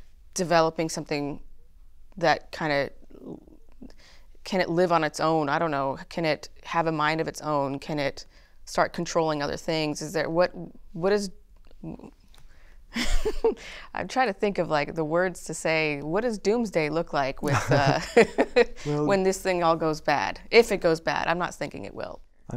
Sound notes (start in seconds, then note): 10.0 laughter; 17.4 laughter